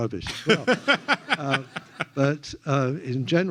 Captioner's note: laughs